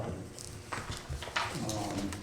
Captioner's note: paper rustling